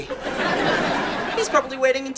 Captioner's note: audience laughing